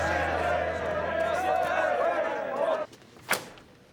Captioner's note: protesters yelling